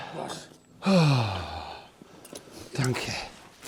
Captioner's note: Seufzt erleichtert